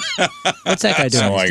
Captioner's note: laughing